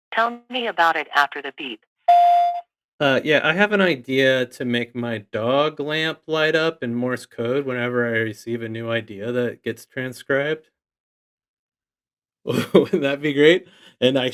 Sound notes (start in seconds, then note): 2.0 phone beeps